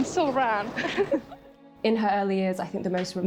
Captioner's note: women giggle